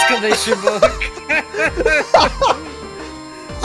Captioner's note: chuckles